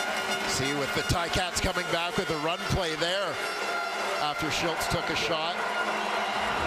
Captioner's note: crowd Noise